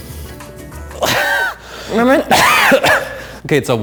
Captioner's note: coughing